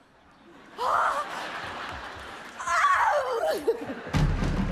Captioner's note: Cleopatra gasps and yells